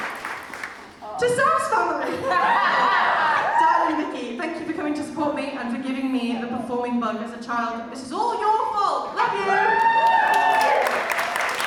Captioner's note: audience cheers